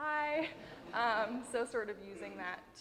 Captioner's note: audience laughing